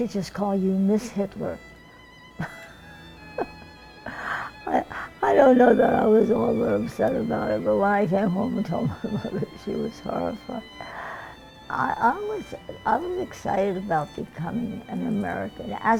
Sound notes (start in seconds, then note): 2.4 laughs